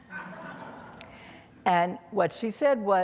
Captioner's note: audience laughing